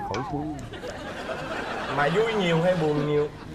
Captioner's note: laughing